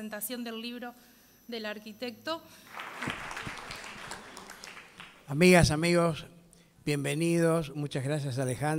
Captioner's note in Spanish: Aplausos